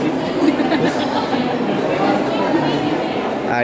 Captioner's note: laughs